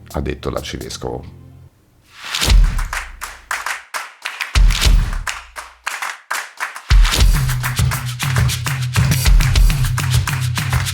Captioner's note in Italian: Applauso